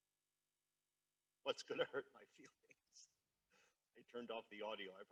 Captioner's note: laughs